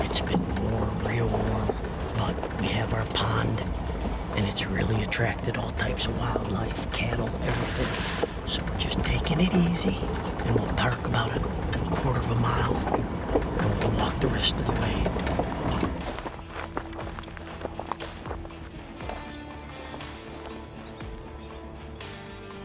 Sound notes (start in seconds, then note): 16.6 gravel crunching; 19.4 gentle upbeat music